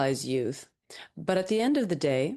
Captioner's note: speaking in French